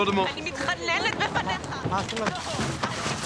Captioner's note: woman speaks hebrew